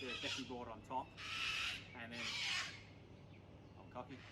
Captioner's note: squawk